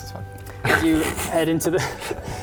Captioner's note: disbelieving snort